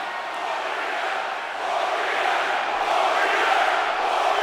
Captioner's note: crowd chants